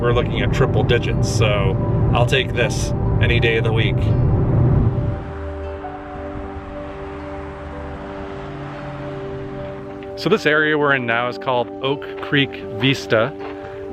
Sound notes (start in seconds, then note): 5.4 cars passing and music in background